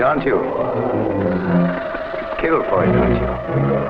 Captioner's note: serpent hisses